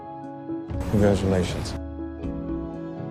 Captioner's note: voiceover